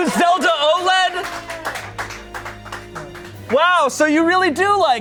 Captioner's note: audience applauding